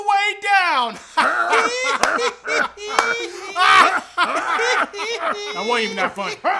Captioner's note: Everyone laughing except Eagles